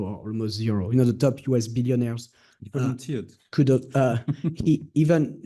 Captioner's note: laughing